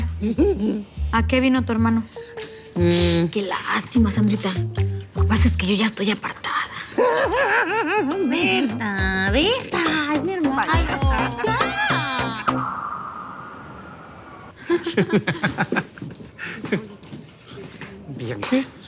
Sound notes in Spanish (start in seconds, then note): 7.0 Risas; 14.6 Risas